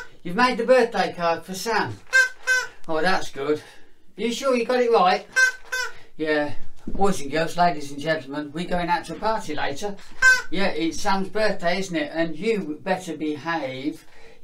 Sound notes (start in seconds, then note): 1.9 squeak squeak; 5.3 squeak squeak; 10.1 squeak